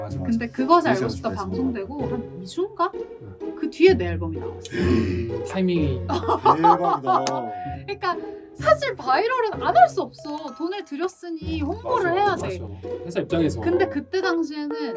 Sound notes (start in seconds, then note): 6.1 laughs